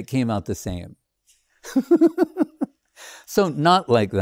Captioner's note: laughs